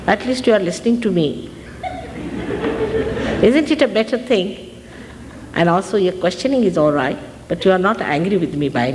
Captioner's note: laughter